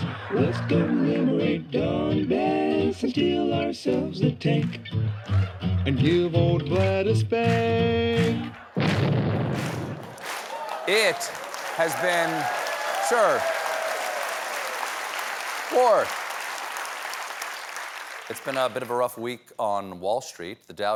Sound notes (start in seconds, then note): 11.1 blast; 11.1 cheers and applause